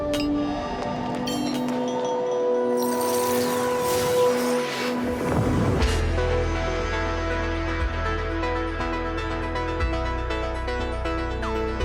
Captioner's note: tinkling